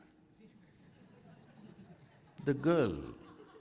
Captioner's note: laughter